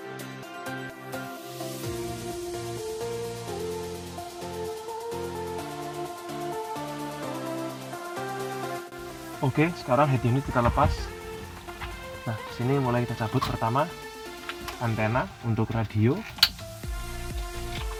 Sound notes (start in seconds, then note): 10.6 radio